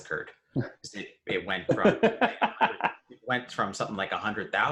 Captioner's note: laughs